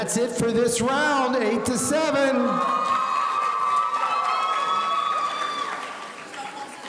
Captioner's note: audience cheering